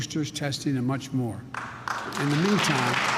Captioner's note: applause